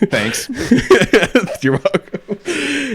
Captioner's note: laughs